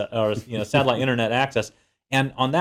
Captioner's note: laugh